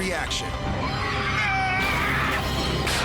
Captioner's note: men scream